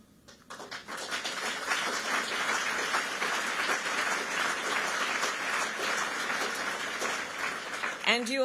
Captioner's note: applause